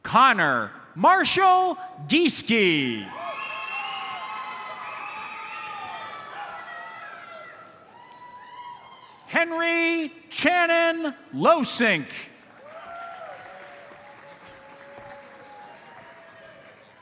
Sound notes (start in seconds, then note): 3.1 audience cheers and applauds; 3.3 audience member whistles; 12.4 audience cheers and applauds